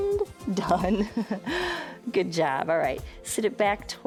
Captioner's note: chuckles